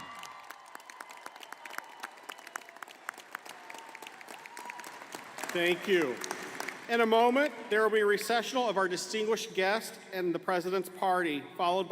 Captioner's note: applause